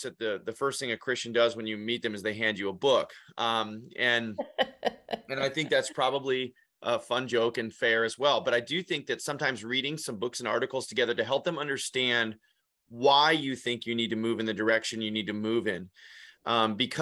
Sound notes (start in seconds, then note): 4.4 laughing